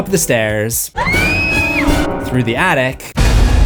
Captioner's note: screams